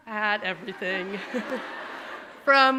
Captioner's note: audience laughing